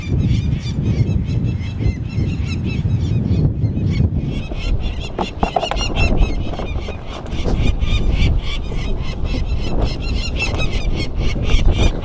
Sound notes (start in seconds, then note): 1.0 peregrine falcons squawking